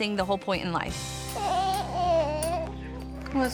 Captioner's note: whimpers